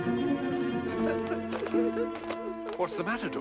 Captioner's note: Menangis